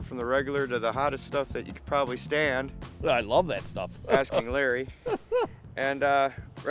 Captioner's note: laughing